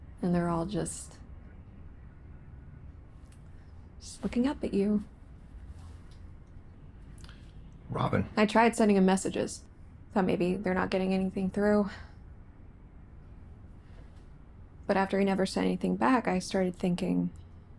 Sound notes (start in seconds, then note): none